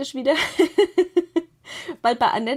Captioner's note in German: gelächter